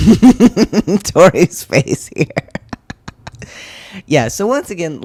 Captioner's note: laugh